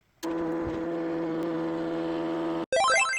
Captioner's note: printer noise